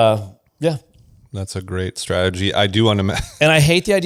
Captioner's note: laughs